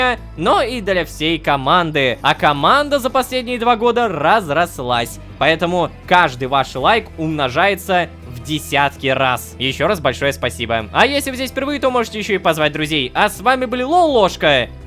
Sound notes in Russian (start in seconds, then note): none